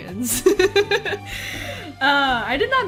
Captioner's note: laughs